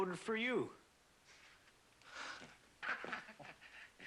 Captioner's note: laughs